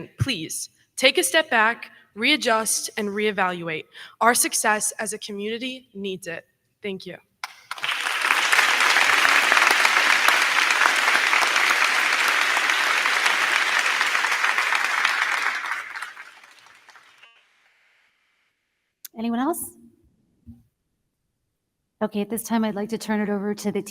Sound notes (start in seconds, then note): 7.4 crowd clapping; 7.5 crowd cheering